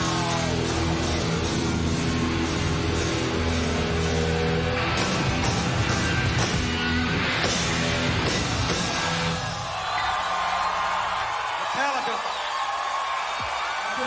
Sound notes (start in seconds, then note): 11.0 audience cheering